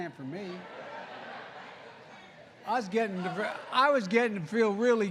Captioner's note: laughter